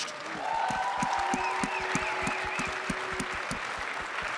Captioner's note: crowd cheering